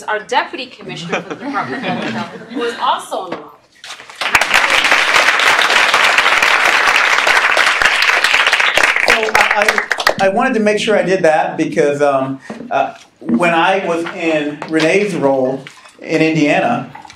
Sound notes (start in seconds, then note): 4.1 clapping